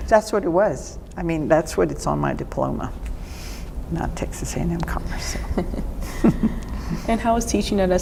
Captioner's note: laughter